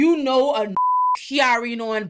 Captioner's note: beep